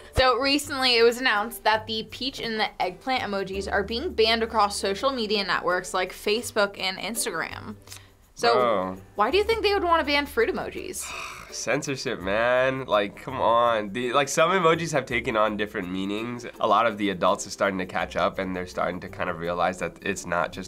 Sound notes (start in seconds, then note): 11.0 sighs